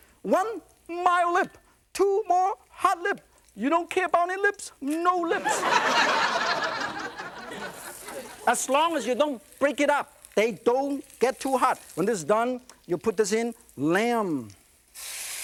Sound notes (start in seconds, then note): 5.3 laughter